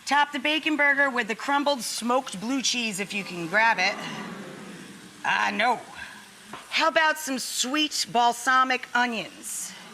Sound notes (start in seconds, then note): 3.6 audience hums